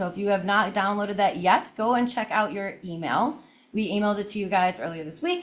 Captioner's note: none